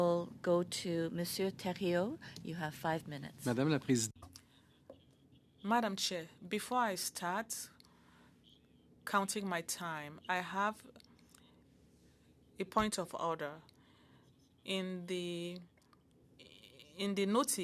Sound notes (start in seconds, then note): 11.8 speaking French